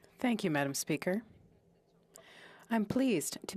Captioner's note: speaking French